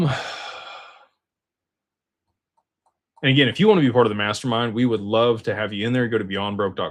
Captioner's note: sighs